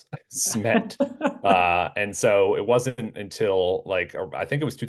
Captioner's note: laugh